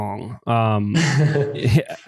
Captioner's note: laughs